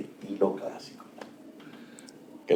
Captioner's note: hitting